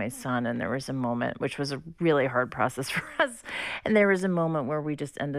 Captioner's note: laughter